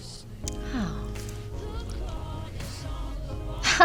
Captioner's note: laughs